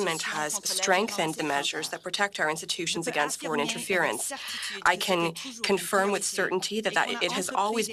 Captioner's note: speaking French